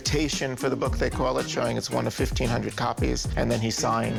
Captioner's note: none